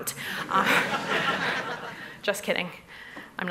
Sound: laughter

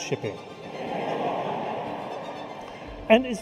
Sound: audience laughs

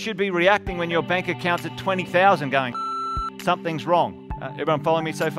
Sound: beep

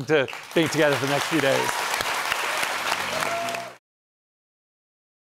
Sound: cheering and applause

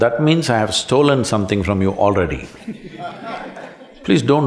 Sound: laughter

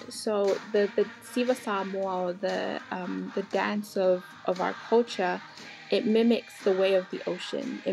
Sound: foreign language

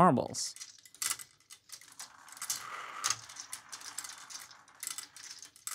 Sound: marbles rolling

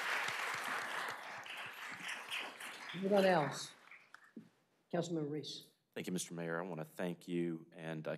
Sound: applause

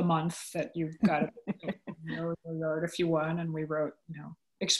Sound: audio warps

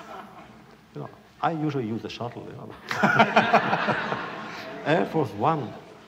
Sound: laughter

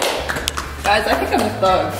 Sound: applause

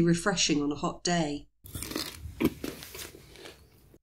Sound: crunching sound

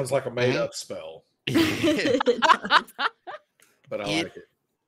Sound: everyone laughing

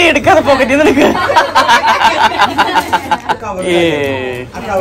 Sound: laughing

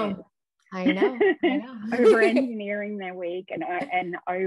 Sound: laughs

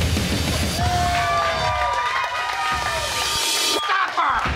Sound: crowd cheers

